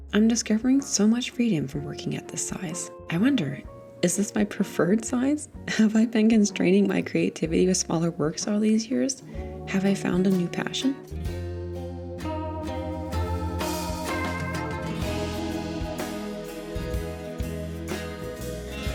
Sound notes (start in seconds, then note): 5.0 chuckles; 11.1 music rises